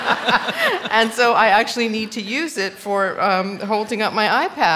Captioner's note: laughter